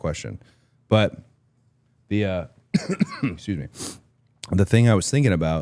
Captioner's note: coughs